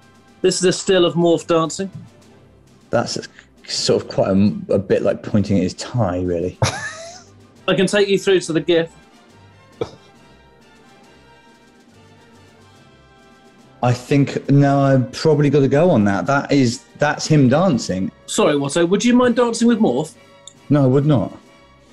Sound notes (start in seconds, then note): 6.6 sniggering